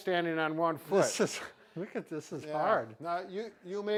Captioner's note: laughs